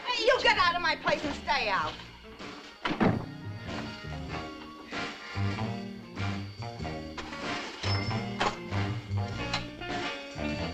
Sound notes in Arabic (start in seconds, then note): 3.0 صوت طرق الباب; 4.4 موسيقى مبهجة